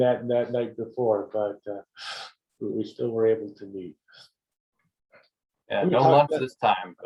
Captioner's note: laugh